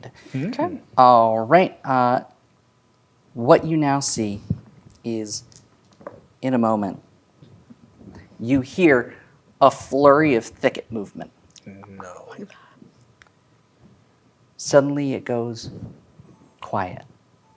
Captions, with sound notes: - Okay. - Mm. - All right, uh... what you now see is, (dice rolling) in a moment, you hear a flurry of thicket movement. - No. - (whispers) I don't like that. - Suddenly, it goes quiet.